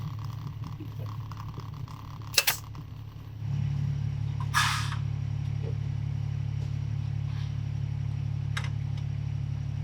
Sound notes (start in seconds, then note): 3.7 machine thrumming